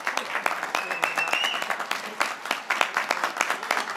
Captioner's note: graduates cheering